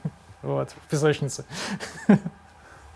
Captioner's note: chuckles